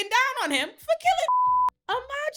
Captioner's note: beep